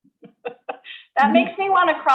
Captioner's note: woman laughs